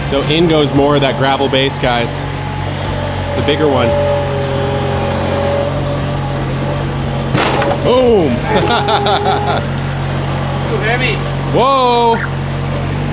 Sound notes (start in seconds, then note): 8.2 laughs; 12.3 chuckles